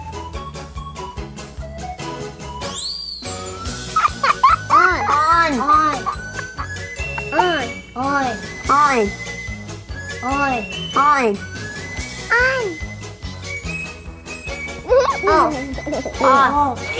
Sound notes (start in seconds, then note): 0.1 upbeat music; 3.9 children laughing; 9.0 upbeat music; 13.3 upbeat music